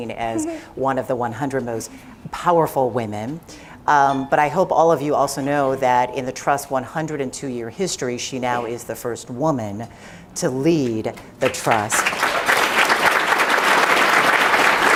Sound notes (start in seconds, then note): 11.4 applause